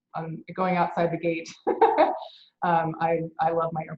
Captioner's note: laughs